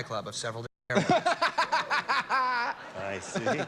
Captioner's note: laughter